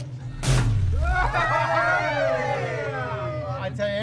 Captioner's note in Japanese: しゃべり声